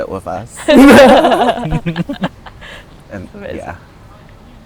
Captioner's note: laughing